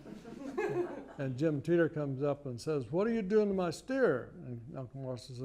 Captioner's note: laughter